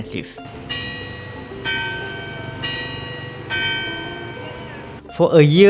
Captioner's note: clock chime